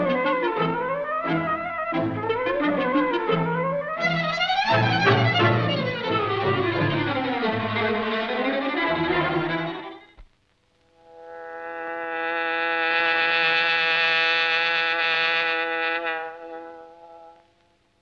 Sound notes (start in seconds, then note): 12.5 hornet buzzing